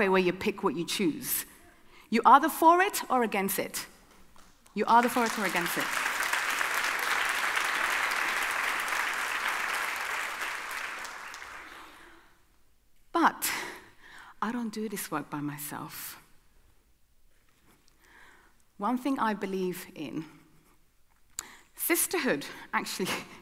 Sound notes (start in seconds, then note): 4.9 audience applauding